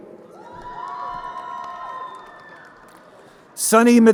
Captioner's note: crowd cheering